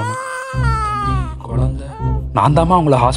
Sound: mom whispers

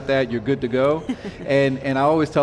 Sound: laughs

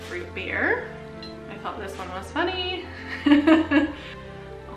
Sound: laughs

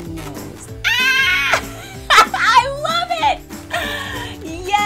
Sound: laughs

